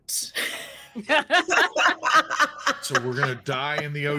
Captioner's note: group laughing